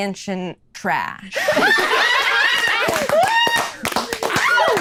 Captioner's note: laughing